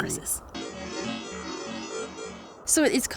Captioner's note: electronic computer sounds playing